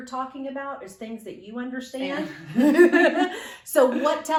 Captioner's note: laughter